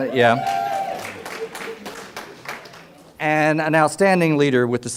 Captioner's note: audience cheers